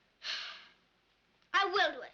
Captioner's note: sighs